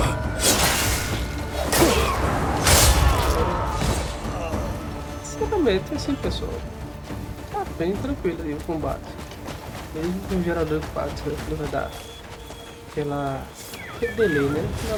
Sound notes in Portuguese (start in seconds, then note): 5.4 gemido; 5.4 grito